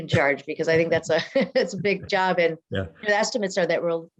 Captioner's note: laughs